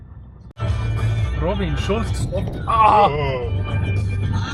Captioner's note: both yell because pot holes